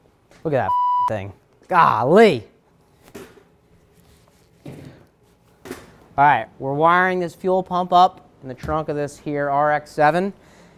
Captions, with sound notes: Look at that (beep) thing. Golly. All right, we're wiring this fuel pump up in the trunk of this here RX-7.